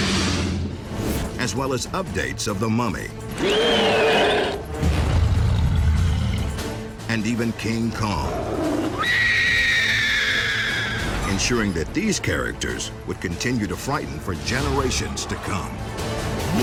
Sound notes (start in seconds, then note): 3.4 mummy screaming; 5.1 King Kong growling; 9.0 woman screaming